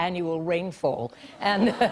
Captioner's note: laughter